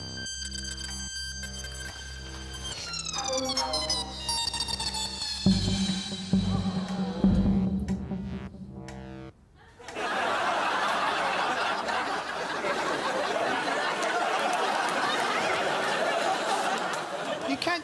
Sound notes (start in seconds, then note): 6.4 audience groaning; 9.6 laughter